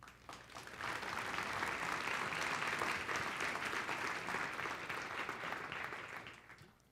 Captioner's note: applause